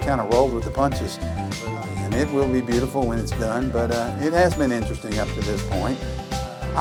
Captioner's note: none